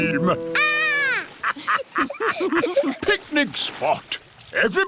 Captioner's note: laughter